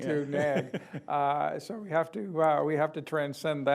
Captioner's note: laughs